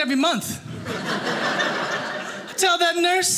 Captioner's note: audience laughing